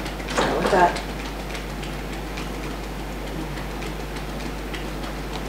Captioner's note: fingers tapping